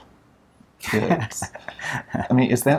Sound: laughs

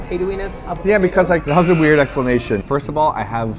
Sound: buzzer

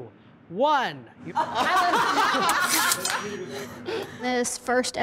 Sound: judges laughing

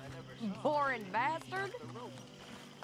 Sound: laughs

